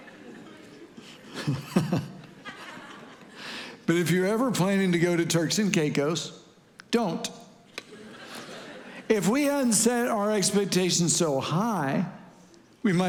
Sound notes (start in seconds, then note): 0.0 chuckles